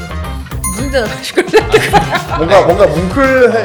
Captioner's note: ha ha